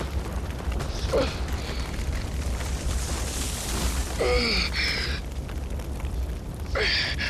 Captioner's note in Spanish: Quejidos